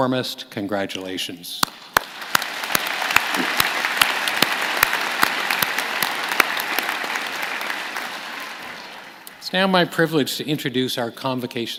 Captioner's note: applause